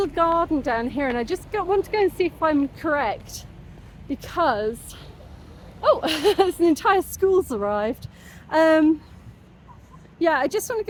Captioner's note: laughing